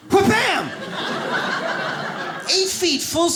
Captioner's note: audience laughs